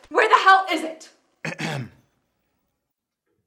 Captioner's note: clears throat